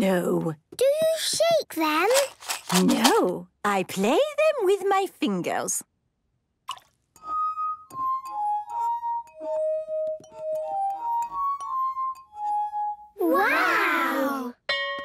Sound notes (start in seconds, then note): 6.6 water drips; 7.2 glasses vibrate melodically